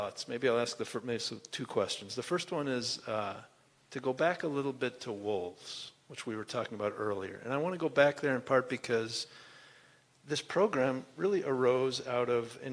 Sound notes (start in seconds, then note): none